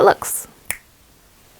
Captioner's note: snap